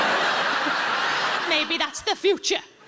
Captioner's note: audience laughs